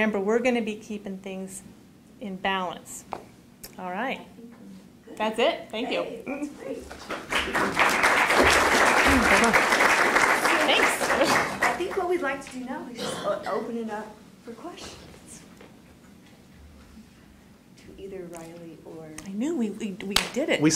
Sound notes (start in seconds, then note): 6.9 applause